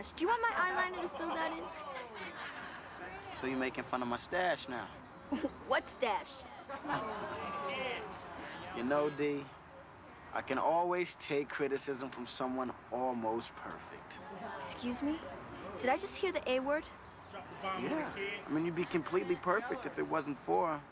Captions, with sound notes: DO YOU WANT MY EYELINER TO FILL THAT IN? SO YOU'RE MAKING FUN MY 'STACHE NOW? WHAT 'STACHE? ( chuckles ) YOU KNOW, DE, I CAN ALWAYS TAKE CRITICISM FROM SOMEONE ALMOST PERFECT. EXCUSE ME? DID I JUST HEAR THE "A" WORD? YEAH, YOU'D BE COMPLETELY PERFECT IF IT WASN'T FOR...